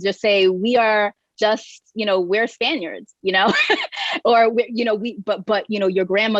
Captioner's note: chuckling